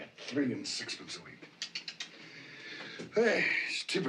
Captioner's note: CLICKlNG TONGUE